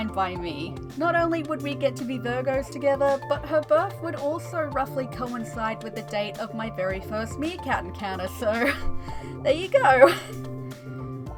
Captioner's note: laughter